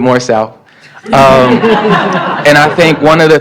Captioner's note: laughter